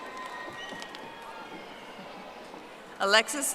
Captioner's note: audience applauding